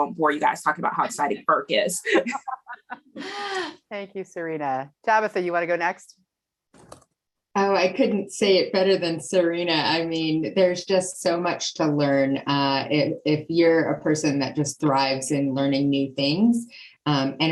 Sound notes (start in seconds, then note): 2.4 laughing